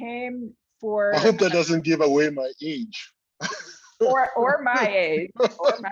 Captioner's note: laughs